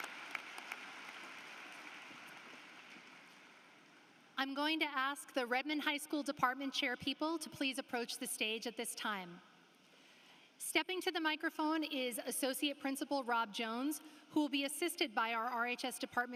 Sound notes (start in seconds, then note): 0.0 applause